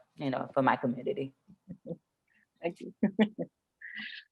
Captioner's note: chuckles